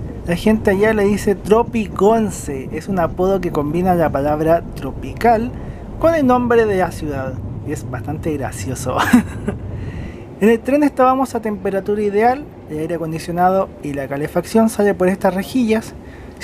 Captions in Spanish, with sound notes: la gente allá le dice TropiConce es un apodo que combina la palabra tropical con el nombre de la ciudad es bastante gracioso (risas) en el tren estábamos a temperatura ideal el aire acondicionado y la calefacción sale por estas rejillas